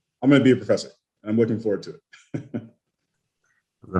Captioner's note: laughs